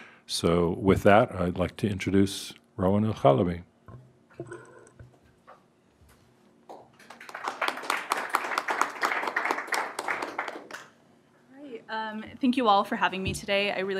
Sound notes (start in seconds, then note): 6.7 applause